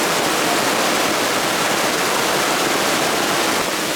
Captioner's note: rain